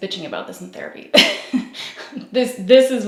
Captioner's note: laughs